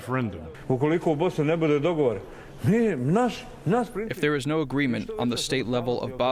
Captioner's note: through translator